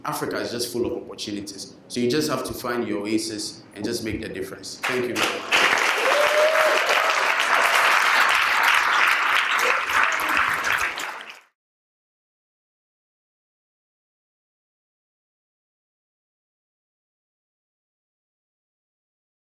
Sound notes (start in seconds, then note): 8.5 applause